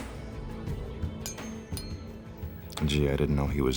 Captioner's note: metal clinks